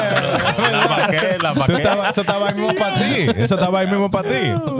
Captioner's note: laughing; speaking In Foreign Language